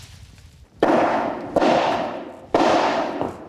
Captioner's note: hammering sound